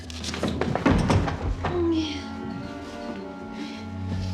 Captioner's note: sleepy moaning